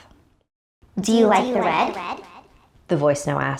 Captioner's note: computer Voice